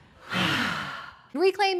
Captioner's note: group exhales